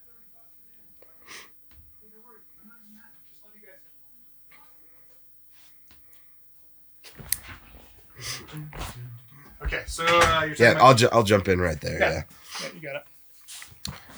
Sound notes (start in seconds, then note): 0.1 speaking faintly; 7.2 door clicks